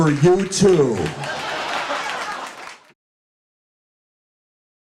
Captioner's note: audience laughing